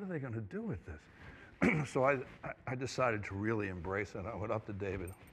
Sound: clears throat

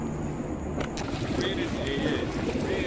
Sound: camera clicks; water burbles; people converse

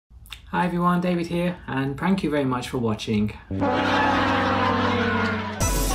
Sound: audience laughter

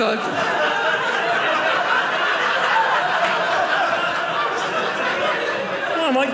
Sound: audience laughing

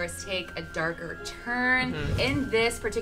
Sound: air whooshing

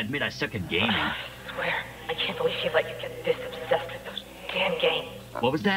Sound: sigh

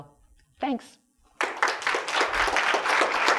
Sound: applause

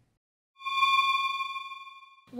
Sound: eerie space sound

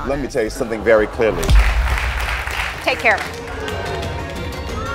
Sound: audience applauds; audience boos; dramatic music

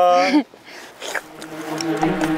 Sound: slurp

